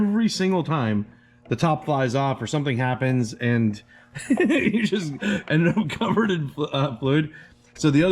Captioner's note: laughs